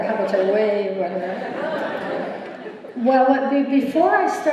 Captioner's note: laughter